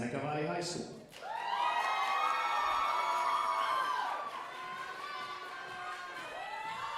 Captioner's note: audience cheering and applauding